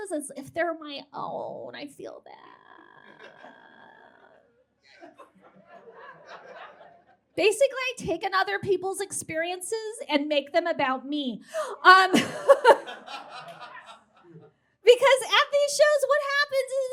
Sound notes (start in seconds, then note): 5.0 scattered chuckles from audience